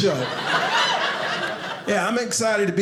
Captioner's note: audience laughing